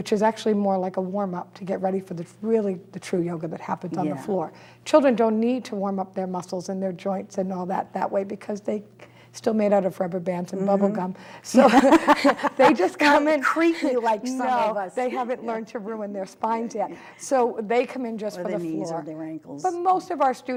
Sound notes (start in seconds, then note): 11.5 laughter